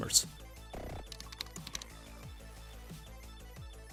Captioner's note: keyboard clicks; soft music